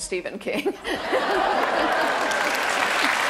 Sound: laughter and applause

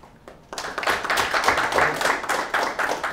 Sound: applause

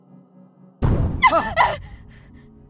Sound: startled scream

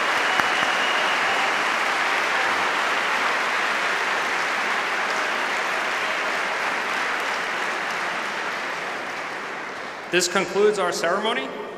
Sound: cheers and applause

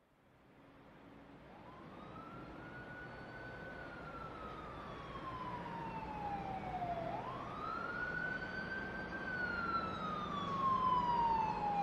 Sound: warning Siren Sound Blaring

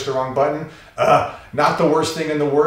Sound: ugh

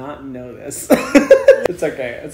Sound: laughter

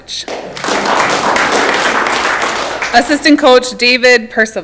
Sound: audience clapping

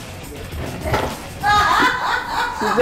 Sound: but the lady in the kitchen starts laughing

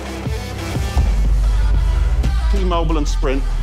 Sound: logos boom

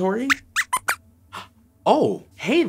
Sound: squeaks squeaks

